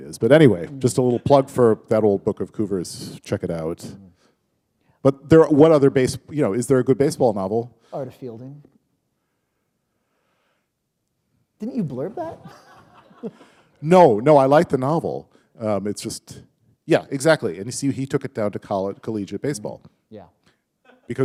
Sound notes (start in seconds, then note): 12.1 laughter